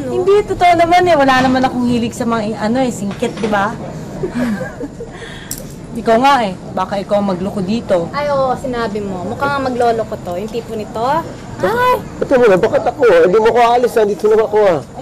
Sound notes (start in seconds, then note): 4.2 chuckles softly